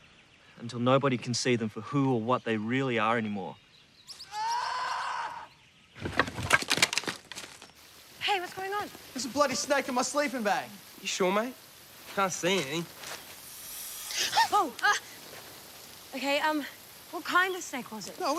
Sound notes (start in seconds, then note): 4.2 distant screaming; 13.3 hissing